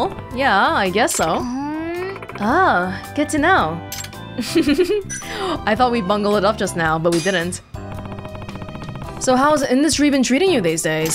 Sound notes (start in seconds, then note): 4.3 chuckles